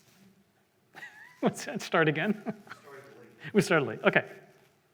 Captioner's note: laughs